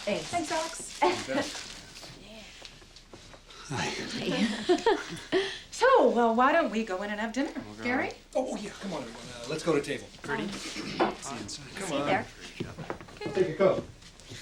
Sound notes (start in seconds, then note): 0.9 chuckles; 3.6 laughs